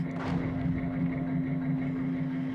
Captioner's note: faint explosion